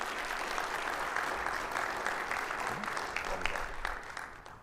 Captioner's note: audience applauding